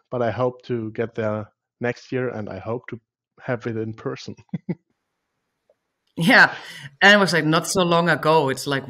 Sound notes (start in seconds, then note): 4.3 laughs